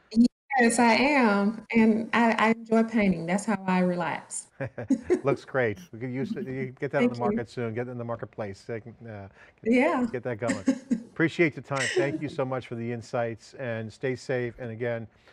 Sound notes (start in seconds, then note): 4.6 laughs